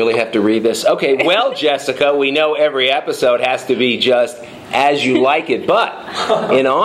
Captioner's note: laughing